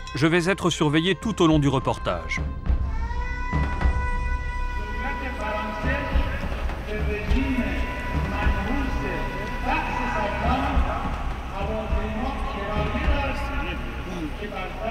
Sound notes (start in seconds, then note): 5.0 Arabic spoken language